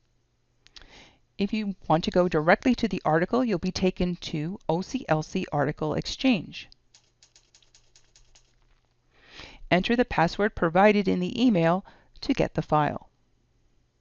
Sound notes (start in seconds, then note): 6.8 typing sounds